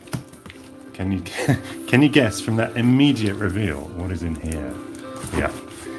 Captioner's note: laughs